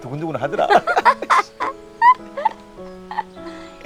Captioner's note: both laughing